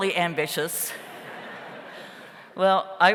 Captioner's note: audience laughs